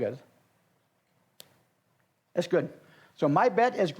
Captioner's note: snaps